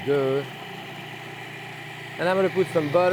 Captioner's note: food processor whirring